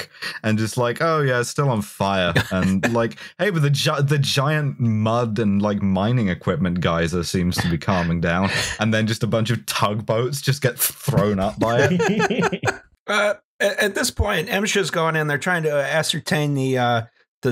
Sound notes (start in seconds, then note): 11.4 laughter